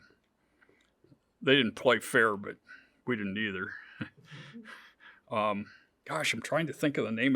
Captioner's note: chuckles